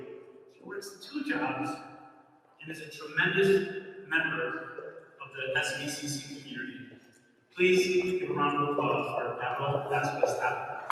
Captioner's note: applause